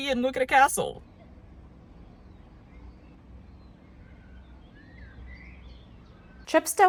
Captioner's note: quiet nature sounds